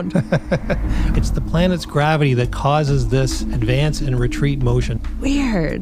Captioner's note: laughs